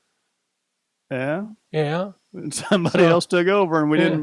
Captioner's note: chuckles